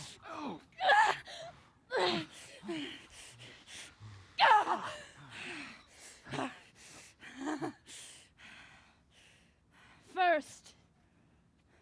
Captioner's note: groaning; laughs